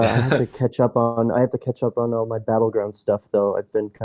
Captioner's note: laughs